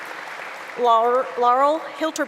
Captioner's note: applause